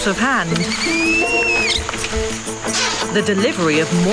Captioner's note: orangutan squealing